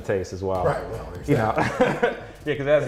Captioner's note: laughs